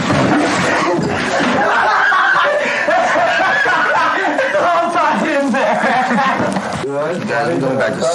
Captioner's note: laughs